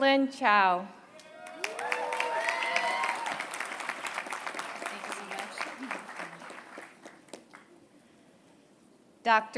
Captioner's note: applause